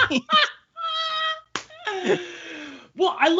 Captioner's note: all laughing